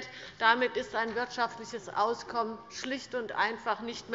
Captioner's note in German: none